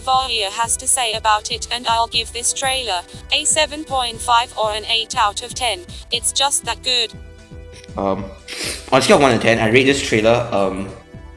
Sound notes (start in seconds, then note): 8.4 sniff